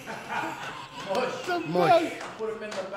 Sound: crowd laughs

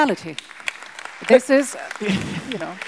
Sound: audience applauds

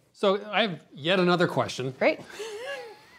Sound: giggling

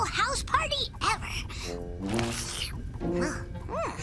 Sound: sips

